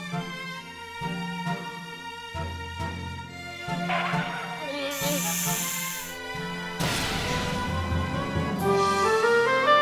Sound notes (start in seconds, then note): 4.4 snakes hissing; 8.6 classical music continues